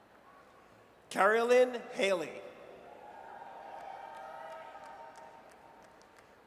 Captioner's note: audience cheers